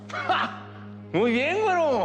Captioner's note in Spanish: Chema ríe